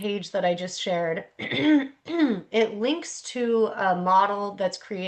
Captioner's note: clears throat